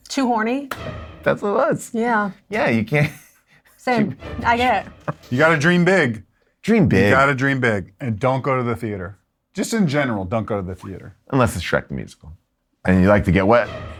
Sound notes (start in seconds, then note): 0.7 intense dramatic music; 3.0 laughs